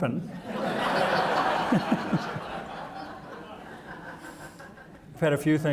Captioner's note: audience laughing